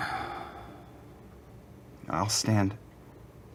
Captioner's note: sighs